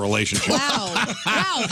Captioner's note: laughing